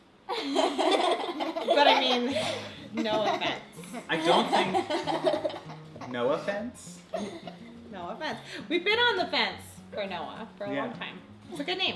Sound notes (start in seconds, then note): 0.4 laughing